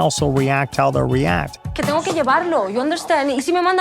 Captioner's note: speaking spanish